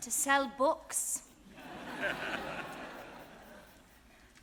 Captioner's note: audience laughing